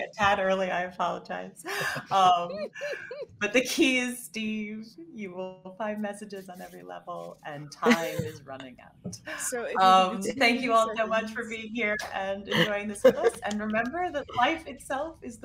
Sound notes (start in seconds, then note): 1.7 all laughing